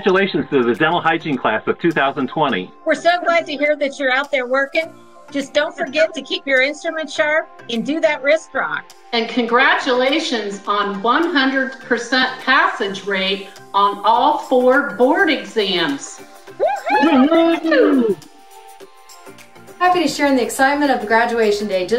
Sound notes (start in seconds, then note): 16.6 cheering